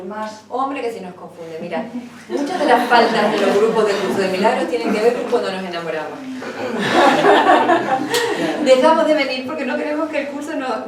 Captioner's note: laughs